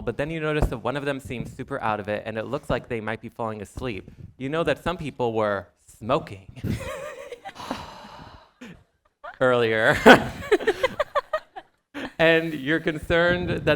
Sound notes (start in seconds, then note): 6.6 chuckles